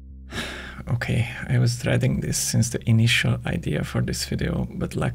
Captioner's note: sigh